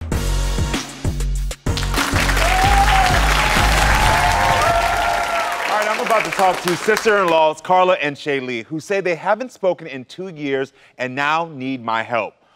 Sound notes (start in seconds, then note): 0.4 upbeat music; 1.7 audience cheers and applauds